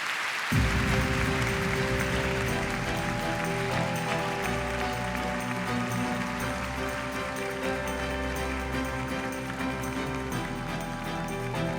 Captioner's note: applause